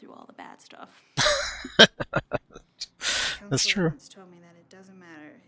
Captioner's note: laughing